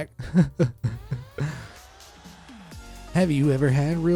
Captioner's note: sobbing